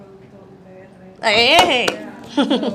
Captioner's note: claps hands